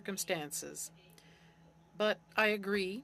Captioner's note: speaking French